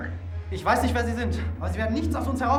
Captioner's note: speaking german